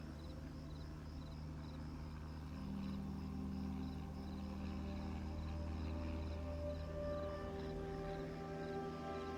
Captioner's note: airplane hums overhead